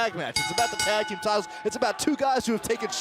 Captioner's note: bell